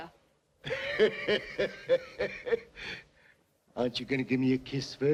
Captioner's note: Joss laughs